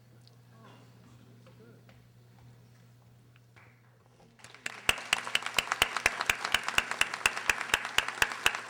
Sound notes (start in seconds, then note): 4.4 audience applauding